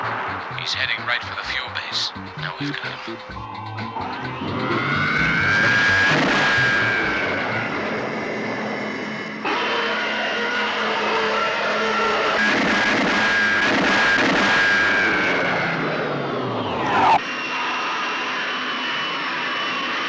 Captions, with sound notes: [Ankar Moor Over Radio] He's heading right for the fuel base. Now we've got him. (zooming) (whooshing)